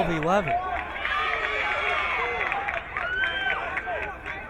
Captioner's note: crowd cheering